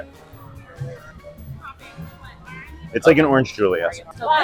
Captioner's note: crowd chattering